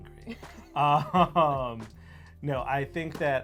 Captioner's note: laughs